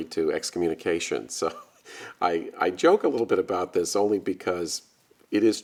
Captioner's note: laughing